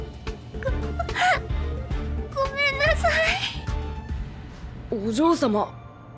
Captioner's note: sob